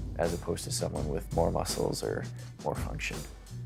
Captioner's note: none